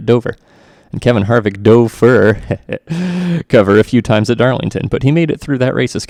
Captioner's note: laughs embarrassingly